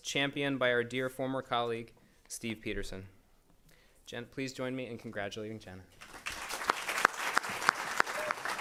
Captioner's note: applause